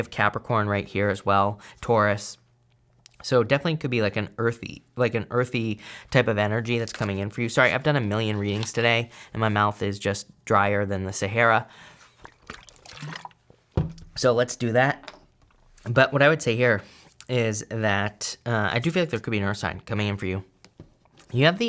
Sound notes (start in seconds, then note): 11.9 liquid splashing